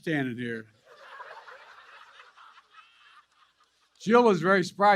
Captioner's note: laughter